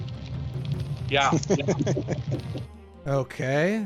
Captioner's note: laughing